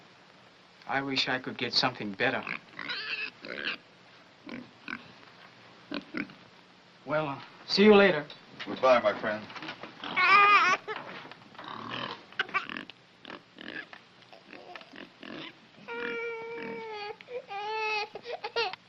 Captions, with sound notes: I wish I could get something better. [OINKS, SQUEALS] Well, uh, see you later. Goodbye, my friend. [BABY CRYING]